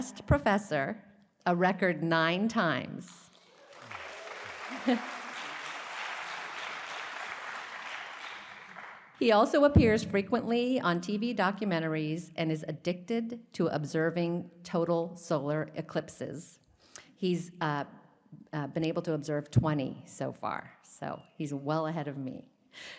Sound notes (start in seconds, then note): 3.2 applause